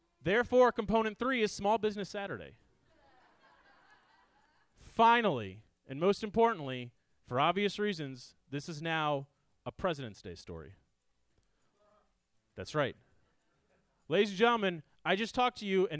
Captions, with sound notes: Therefore component three is small business Saturday. (audience laughs) Finally and most importantly for obvious reasons, this is now a Presidents' Day story. That's right. Ladies and gentlemen, I just talked to you